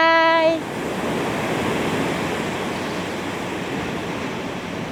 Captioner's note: waves crashing